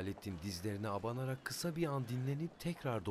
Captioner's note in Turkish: Sokak ortam sesi